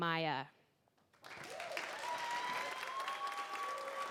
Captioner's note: applause